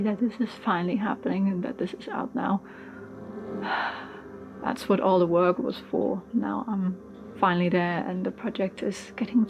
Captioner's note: sighs